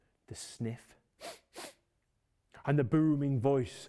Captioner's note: sniffing